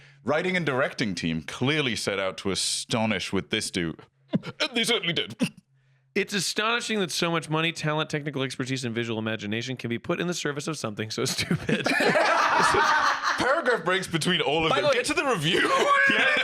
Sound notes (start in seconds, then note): 11.3 all laughing